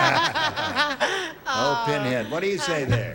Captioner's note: laughter